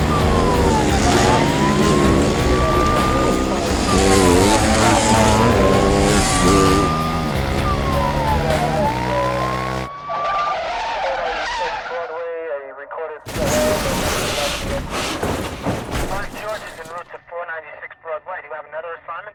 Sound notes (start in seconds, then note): 10.2 tires squealing